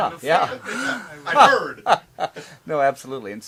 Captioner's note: laughs